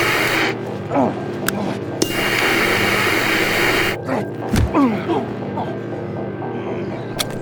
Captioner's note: static scratching; Pavel groans; static scratching